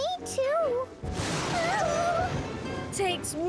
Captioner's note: thunderclap